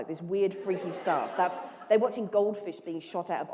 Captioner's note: laughter